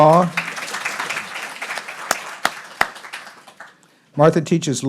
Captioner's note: everyone applauding